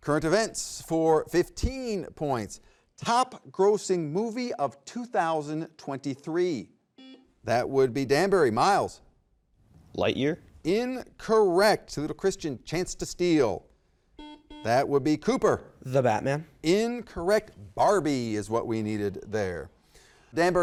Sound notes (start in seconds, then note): 7.0 button beeping; 14.2 button beeping